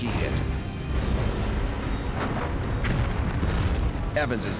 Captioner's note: explosions booming